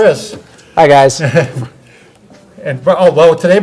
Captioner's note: chuckles